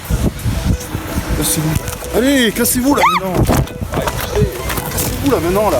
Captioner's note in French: la bénévole pousse un cri